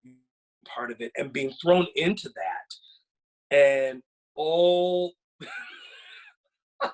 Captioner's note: laughs